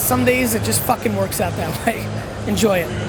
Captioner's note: laughs